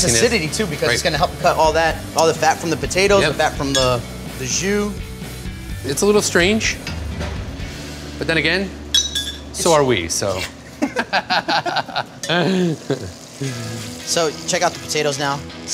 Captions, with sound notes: - And it has really nice acidity too, because it's gonna cut all that, all the fat from potatoes, the fat from the jus. - It's a little strange. But then again, so are we, so. - Yeah. (both laugh) (clink of wineglasses) So check out the potatoes now.